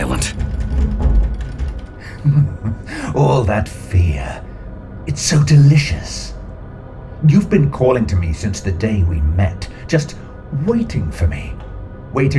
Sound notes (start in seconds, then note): 2.0 giggling